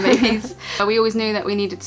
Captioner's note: chuckles